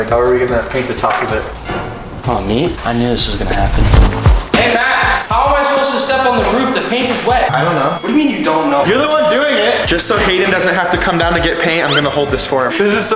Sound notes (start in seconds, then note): 1.4 dramatic orchestral chord; 4.0 wheels squeaking